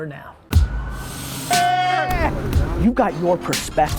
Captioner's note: airplane sounds